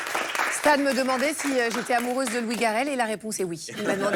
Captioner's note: applause